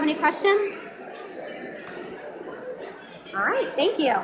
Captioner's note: audience mumbling